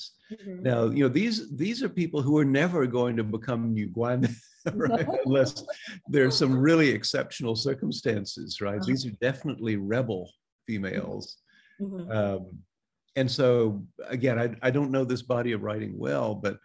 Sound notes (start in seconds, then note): 4.6 both laughing